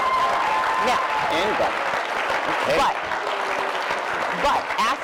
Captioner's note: cheering